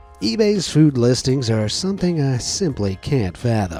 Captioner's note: none